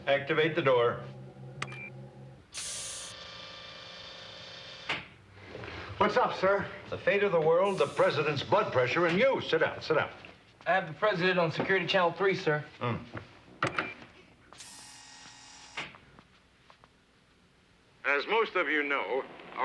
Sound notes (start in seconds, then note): 1.7 beeping; 14.5 buzzing